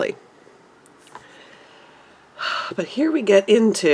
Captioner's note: sigh